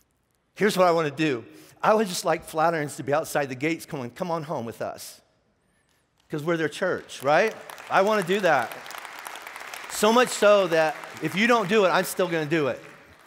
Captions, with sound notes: here's what I wanna do. I would just like Flatirons to be outside the gates going come on home with us. 'Cause we're their church, right? (clapping) I wanna do that. So much so that if you don't do it, I'm still gonna do it.